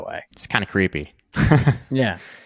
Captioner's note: chuckling